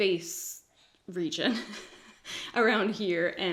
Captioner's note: giggles